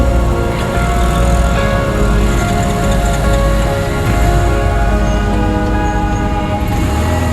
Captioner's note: the motorcycle stalls out again going uphill